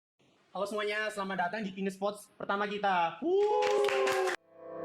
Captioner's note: clap